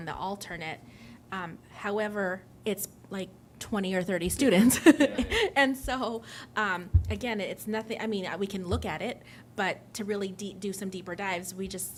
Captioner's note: laughter